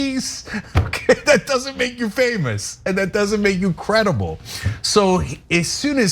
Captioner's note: laugh